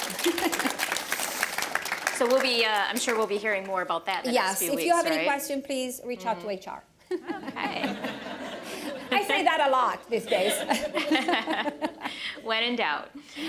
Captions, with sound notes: So we'll be-I'm sure we'll be hearing more about that in the next few weeks, right? >> Yes, if you have any questions, please reach out to HR. >> Okay [laughter]. >> I say that a lot these days [laughs]. >> [Laughing] When in doubt.